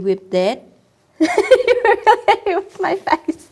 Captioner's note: laughs